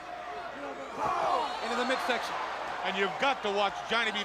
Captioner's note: crowd chatter